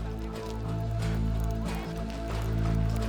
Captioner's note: fire crackling